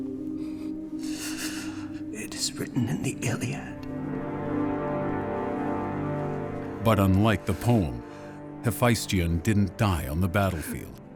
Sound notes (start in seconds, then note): 1.0 gasping